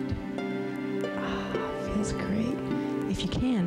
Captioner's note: sighs